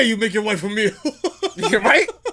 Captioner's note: laughs